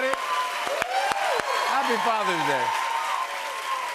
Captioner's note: cheers and applause